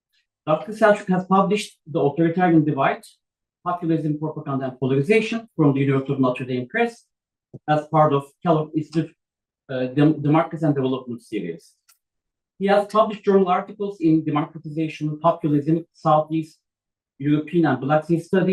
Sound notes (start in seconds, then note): 8.3 non-english speech